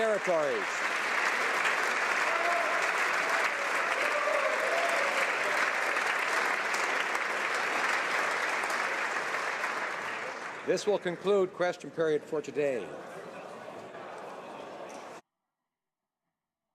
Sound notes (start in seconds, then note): 0.1 some Applause; 4.4 applause